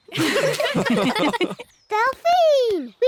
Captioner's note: all giggle